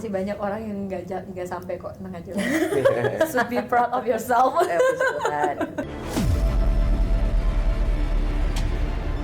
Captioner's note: laughs